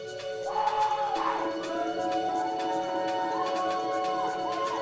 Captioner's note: crowd cheering